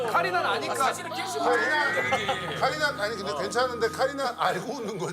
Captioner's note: can't stop laughing